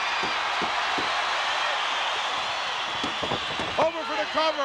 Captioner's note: crowd cheering